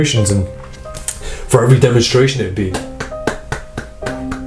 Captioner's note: clapping